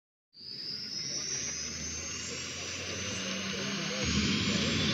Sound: helicopter blades whirring

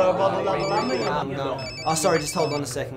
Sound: phone rings

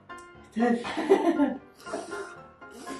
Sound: laughs

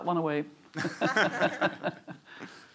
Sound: chuckling

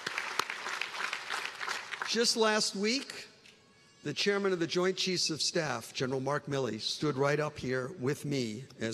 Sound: applause

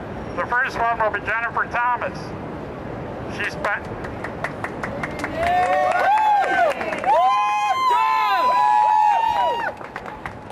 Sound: applause

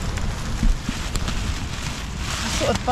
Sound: rustling about

